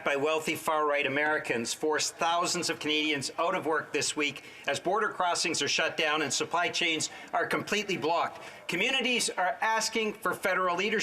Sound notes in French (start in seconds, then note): 2.1 voix de l'interprète